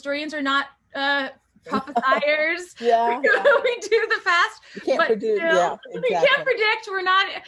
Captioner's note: laughter